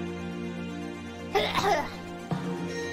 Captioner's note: Coughs